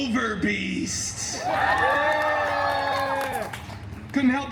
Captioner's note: guests cheering